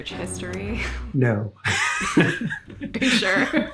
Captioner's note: chuckles